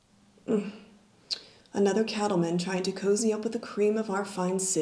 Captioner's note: sighs